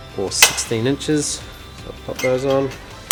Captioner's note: snapping